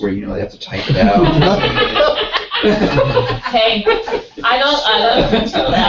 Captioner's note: laugh